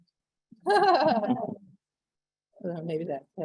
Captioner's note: laughing